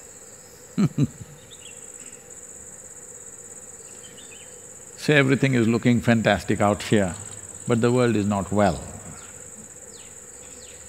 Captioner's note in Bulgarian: смее се